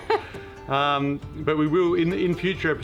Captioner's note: laughing